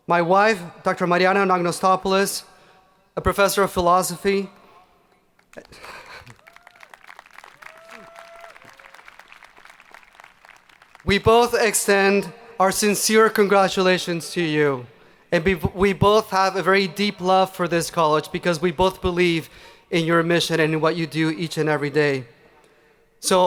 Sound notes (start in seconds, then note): 5.4 hands clapping; 5.6 people cheering